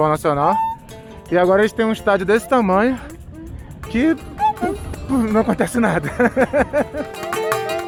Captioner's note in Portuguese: risada